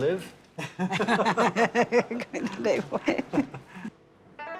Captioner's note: laughing